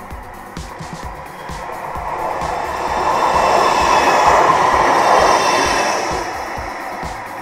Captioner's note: tram rumble